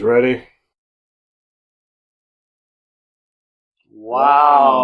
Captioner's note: silence